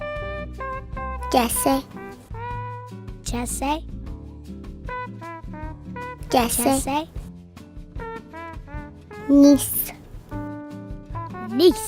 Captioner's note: children speaking Arapaho numbers